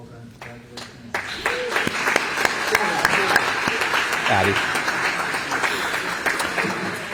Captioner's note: applause